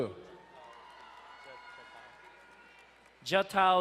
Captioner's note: crowd cheering and applauding